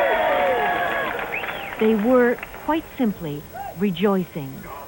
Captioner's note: cheering